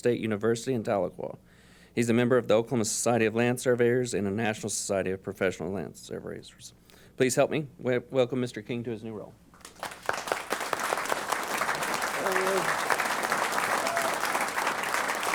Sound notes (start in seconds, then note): 9.5 applause